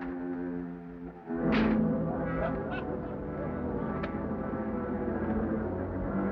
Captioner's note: brooding music; men chattering